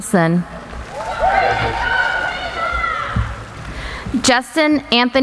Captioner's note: applauding